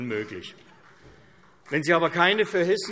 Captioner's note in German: Beifall CDU